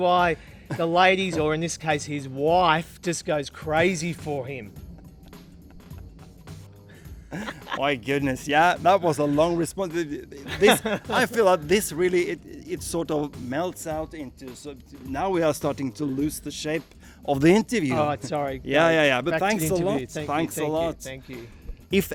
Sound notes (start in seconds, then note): 4.7 laughs